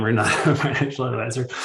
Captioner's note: chuckles